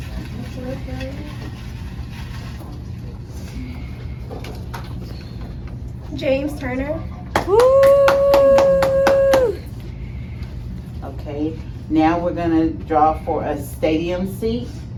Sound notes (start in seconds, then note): 0.3 papers rustling; 7.3 cheering and clapping